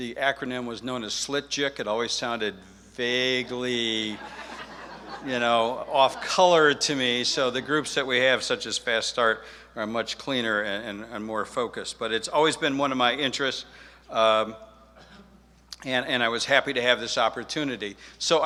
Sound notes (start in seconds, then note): 3.3 audience laughs